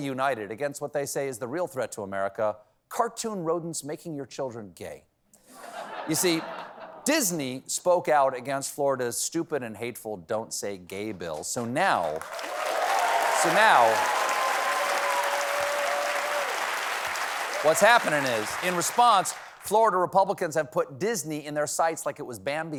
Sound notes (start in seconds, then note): 15.6 applause